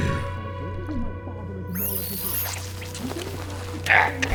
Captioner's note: Loam grunting and struggling